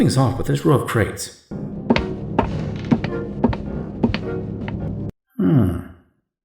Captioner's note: walking